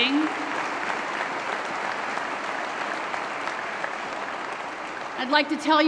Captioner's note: applause